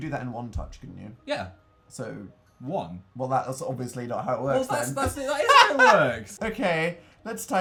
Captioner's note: laughs